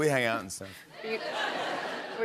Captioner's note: laughter